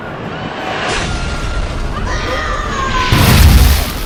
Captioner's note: ghost screams in agony